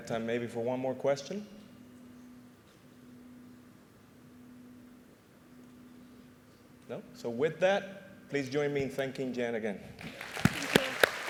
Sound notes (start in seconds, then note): 10.0 applause